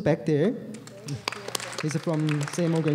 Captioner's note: applause